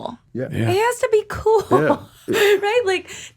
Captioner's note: chuckles